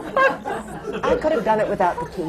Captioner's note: laughter; literally laughing until she cries